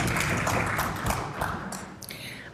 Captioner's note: applause